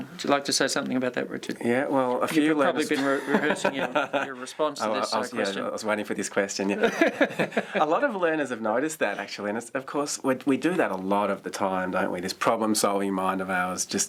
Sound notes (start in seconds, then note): 6.7 laughter